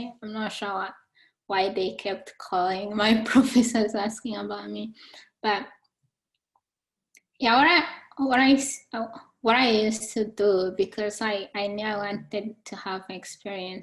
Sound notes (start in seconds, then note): none